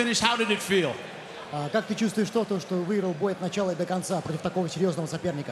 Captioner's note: foreign